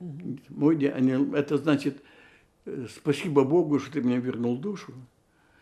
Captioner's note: hebrew